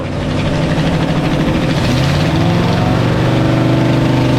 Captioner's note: engine revving